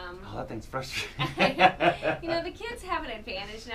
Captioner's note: laughs